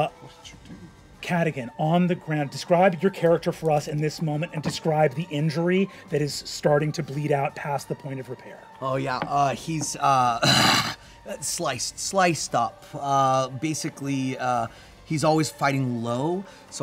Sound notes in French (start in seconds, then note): 10.3 gémit